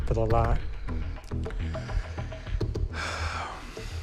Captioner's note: sighs